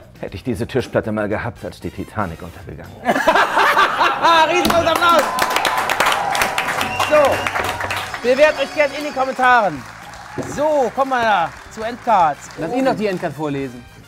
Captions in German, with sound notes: Hätte ich diese Tischplatte mal gehabt, als die Titanic untergegangen ist. Riesengroßen Applaus! (Jubel, Applaus) So. Bewerbt euch gern in den Kommentaren. So, kommen wir zur Endcard. Lass ihn noch die Endcard vorlesen.